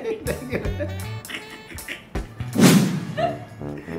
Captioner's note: laughing